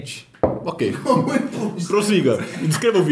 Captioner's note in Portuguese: risos